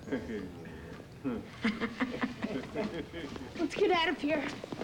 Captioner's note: chuckling